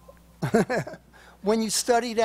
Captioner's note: laughs